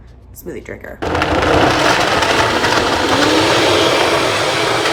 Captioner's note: blender whizzing